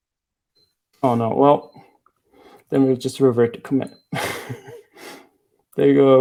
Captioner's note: laughing